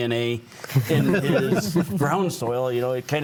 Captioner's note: panelists laughing